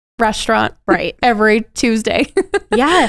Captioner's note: laughs